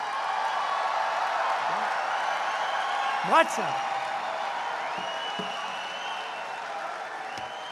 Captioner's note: laughter and applause